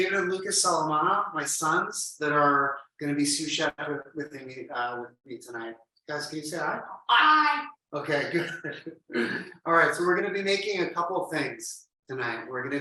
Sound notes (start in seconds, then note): 8.1 chuckles lightly